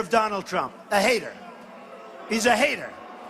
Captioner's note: crowd boo